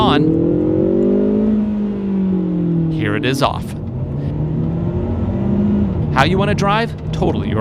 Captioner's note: engine roaring